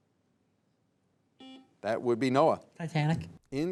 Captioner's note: buzzer beeps